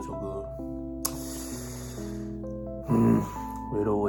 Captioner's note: sipppp